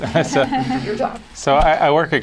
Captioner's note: laughter